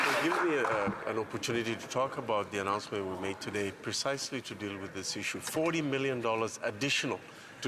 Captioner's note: some Applause